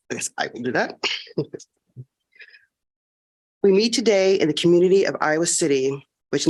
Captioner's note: laughter